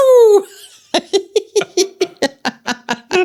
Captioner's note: laughing